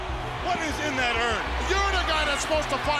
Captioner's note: crowd cheers